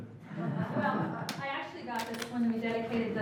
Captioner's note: laughing